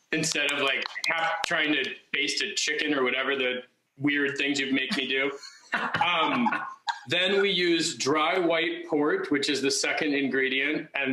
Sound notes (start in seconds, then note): 0.2 clapping; 4.6 laughing